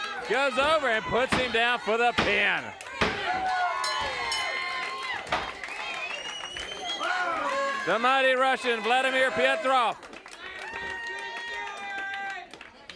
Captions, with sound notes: Goes over and puts him down for the pin. (bell dings) The mighty Russian, Vladimir Petrov.